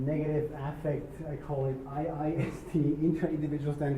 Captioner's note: laugh